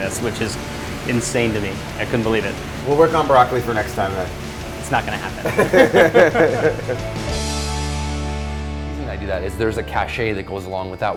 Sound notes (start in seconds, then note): 5.0 both laugh; 7.4 bright music